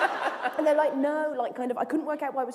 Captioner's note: laughter